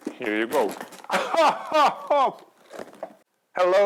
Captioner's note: laughs